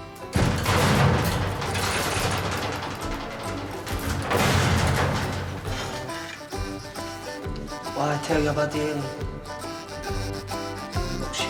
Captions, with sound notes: (door rattling) - What did I tell you about the aliens?